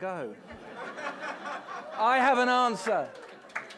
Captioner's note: audience laughing; audience applauds